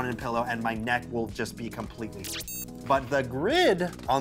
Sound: blip

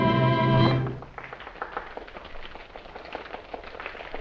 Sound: applause

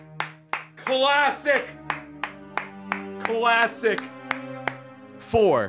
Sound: claps

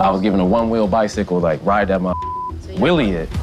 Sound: beep

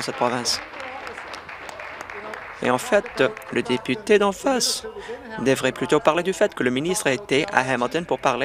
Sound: applause

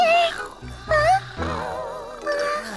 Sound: snoring

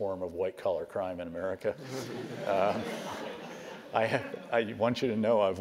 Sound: laugh

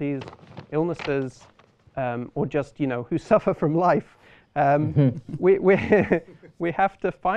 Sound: laughter

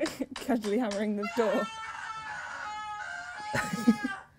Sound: screams

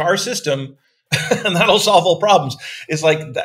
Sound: laughing

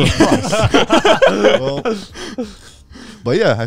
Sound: all laughing

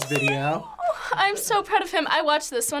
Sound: claps

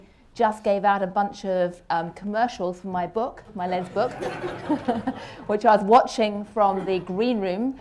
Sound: laugher

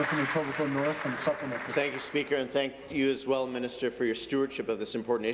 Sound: applause

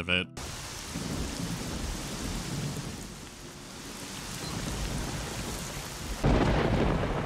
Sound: sombre whispering of rainfall and faint sounds of distant thunder

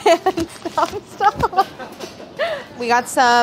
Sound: laughing

